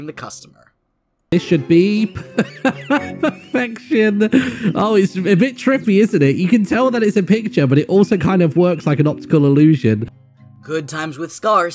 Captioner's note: laughs